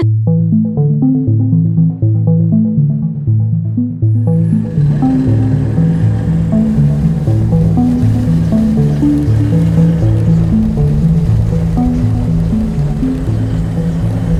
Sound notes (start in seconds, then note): 0.2 mysterious music; 4.6 engine whirring; 10.4 mysterious music continues